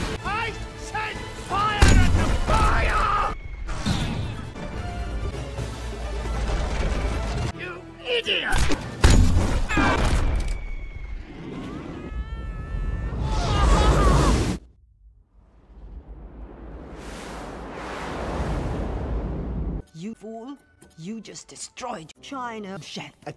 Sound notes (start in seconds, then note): 10.5 distant screaming; 13.3 screaming